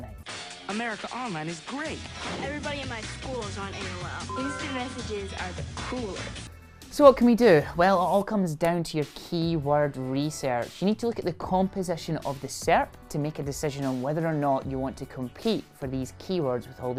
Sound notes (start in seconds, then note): 2.4 upbeat music; 4.2 message alert sound